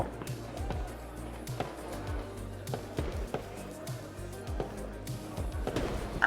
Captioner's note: gentle upbeat music; fireworks exploding